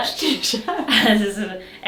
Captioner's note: both laughing